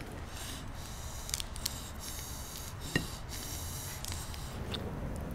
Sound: heavy breathing in and out

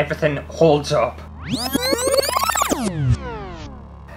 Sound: rewind Sound

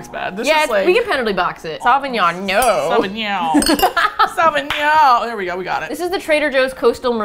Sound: laughs and claps

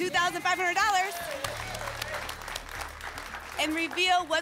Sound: applause

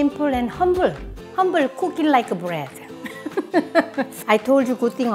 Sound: laughs

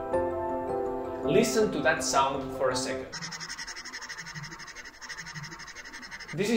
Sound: pen scratching on the screen

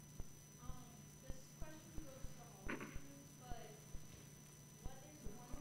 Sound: student murmuring question

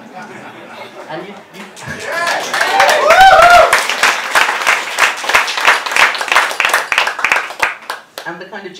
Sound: laughter and cheering

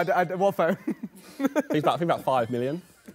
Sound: laughs

